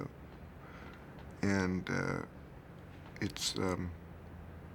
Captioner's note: stammering